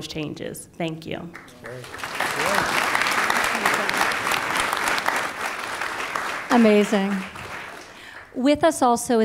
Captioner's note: applause